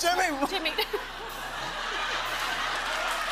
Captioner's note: laughter